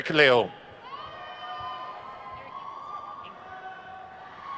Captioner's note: crowd cheers